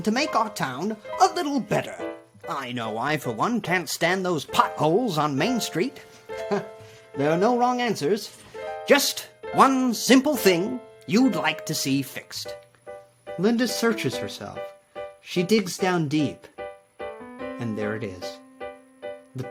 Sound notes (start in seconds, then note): 6.5 laughs